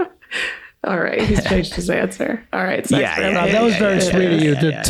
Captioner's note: laughs